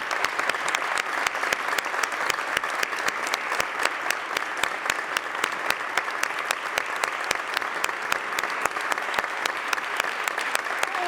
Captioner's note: applause